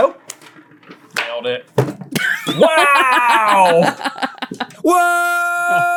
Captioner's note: laughs